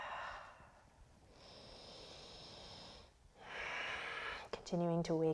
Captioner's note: deep breathing